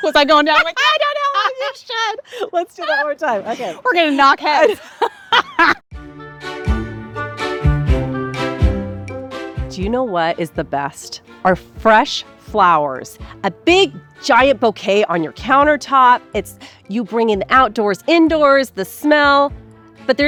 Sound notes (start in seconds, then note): 4.6 both laughing; 5.9 regal music